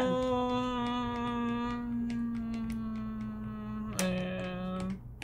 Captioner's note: groooooooooooan; groooooooooooooooooooooooooooooooan